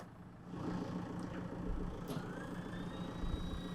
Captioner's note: motor humming